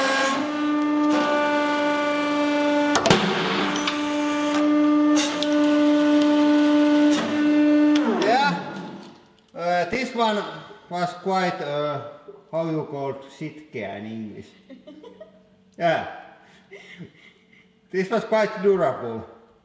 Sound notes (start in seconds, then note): 14.5 giggles